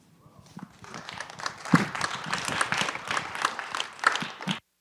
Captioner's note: applause